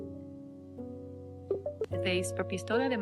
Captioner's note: spanish